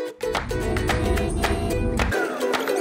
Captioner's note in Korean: 뛰뛰